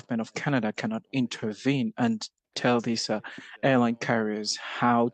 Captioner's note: speaking French